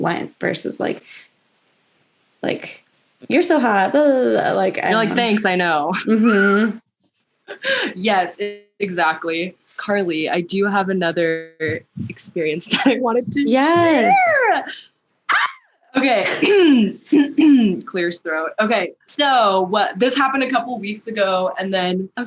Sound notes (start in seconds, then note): 6.0 laughter* yes, exactly; 15.7 clears throat